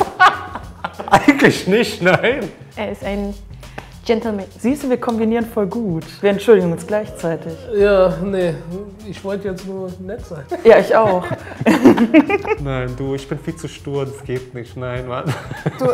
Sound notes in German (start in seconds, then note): 0.0 Lachen; 10.5 Lachen